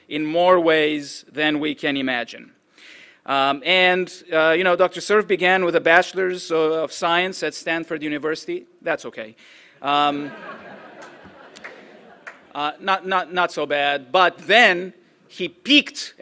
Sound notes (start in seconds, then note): 12.1 chuckles